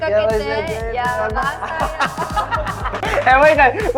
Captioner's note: cheers